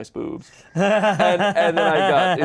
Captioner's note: Ian laughing